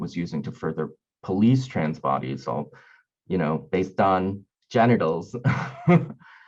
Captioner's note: laughing